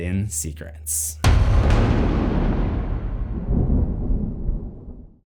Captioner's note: thunder